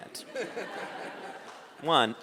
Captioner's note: audience laughing